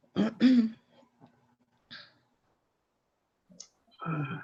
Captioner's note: throat clearing